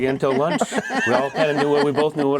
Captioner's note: laugh